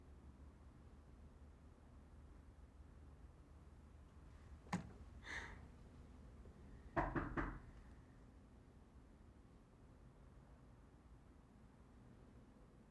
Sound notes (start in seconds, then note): 5.2 sighs; 6.9 knock on door